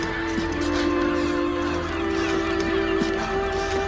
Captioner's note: birds screeching